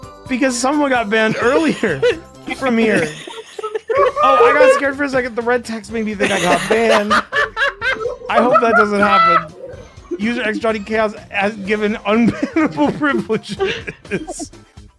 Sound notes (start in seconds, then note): 2.5 laughter; 9.0 laughter